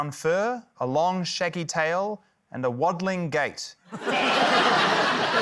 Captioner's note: laughter